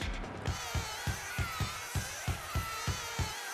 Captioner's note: bees buzzing